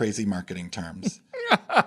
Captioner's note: laugh